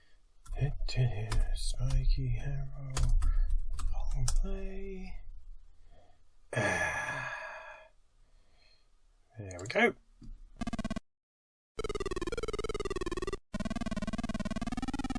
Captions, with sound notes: *mumbles* "Spiky Harold Longplay" *satisfied sound of air from mouth* "There we go!" [Spiky Harold bumble bee sounds re-emerge from the pit of unfettered depair]